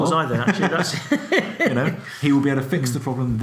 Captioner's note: both laugh